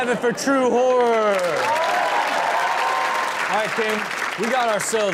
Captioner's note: audience cheers and claps